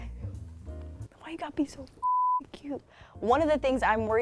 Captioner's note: beep